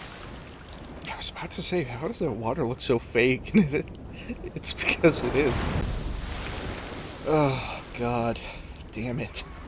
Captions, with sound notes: "I was about to say, how does that water look so fake? And it- *laughter* It's because it is." "Ugh, God, dammit."